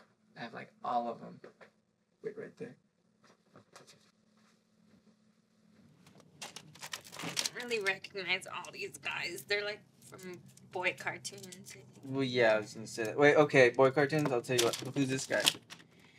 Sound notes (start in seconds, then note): 3.7 rustling; 6.4 toys clattering